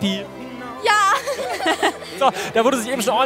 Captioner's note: Sie lachen